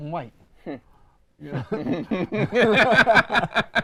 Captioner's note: both laugh